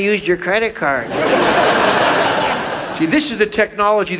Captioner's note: audience laughs